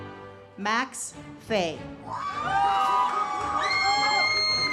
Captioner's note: audience cheers; uplifting music